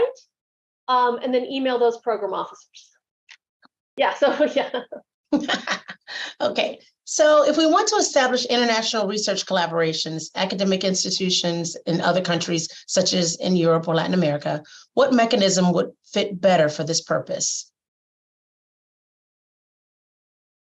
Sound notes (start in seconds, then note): 5.3 laughter